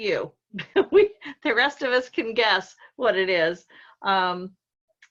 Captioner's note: laughs